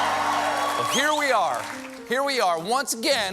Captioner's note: cheers and applause